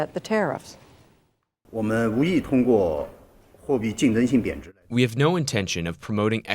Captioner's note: through translator